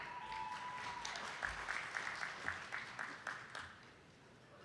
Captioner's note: attendees clapping